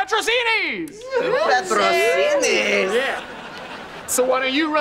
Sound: cheering

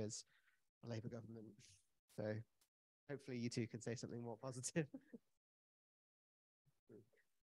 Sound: chuckles

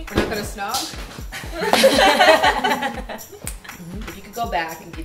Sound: laughter

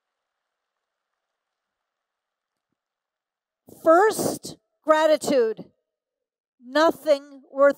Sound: applause

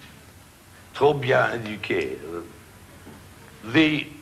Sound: speaking foreign language

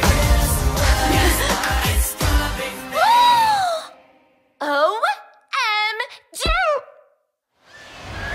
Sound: gasp

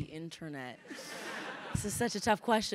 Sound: crowd laughing

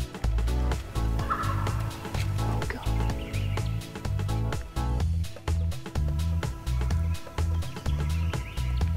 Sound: whispering

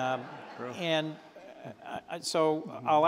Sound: laughter

